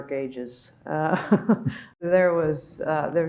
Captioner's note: laughing